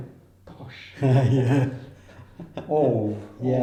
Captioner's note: laughs